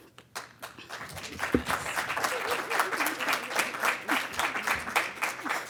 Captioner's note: audience clapping